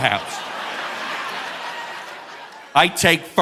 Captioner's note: audience laughing